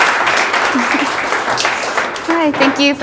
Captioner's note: audience applauds; laughs